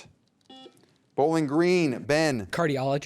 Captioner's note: buzzer beeps